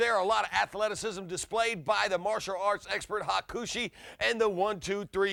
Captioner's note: none